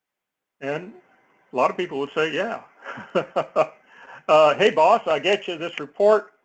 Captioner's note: laugh